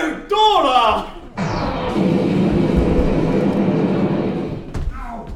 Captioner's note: explosion; not-a-dalek-gun fires